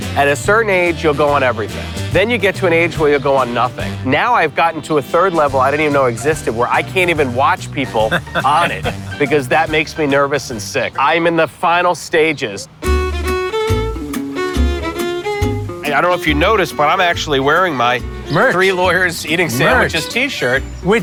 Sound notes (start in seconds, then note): 7.6 laughs; 12.8 cheerful music